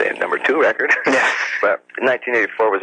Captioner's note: chuckles